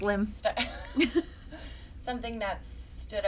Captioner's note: chuckling